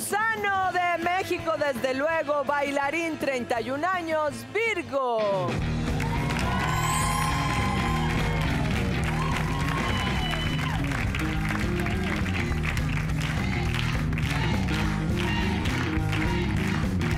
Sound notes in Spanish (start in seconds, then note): 5.8 Aplausos